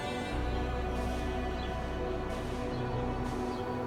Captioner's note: birds chirping; leaves rustling